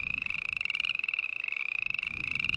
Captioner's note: frogs croaking